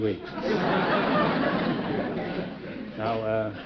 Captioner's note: chuckling